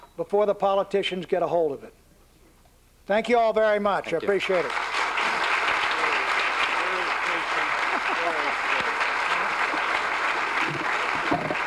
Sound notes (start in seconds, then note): 5.5 applause; 8.1 laughs